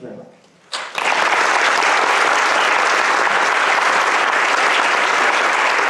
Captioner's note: applause